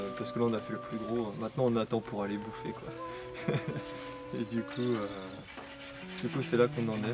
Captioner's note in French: Laughs